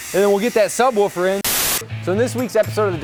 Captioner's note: static